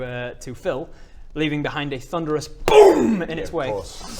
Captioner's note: boom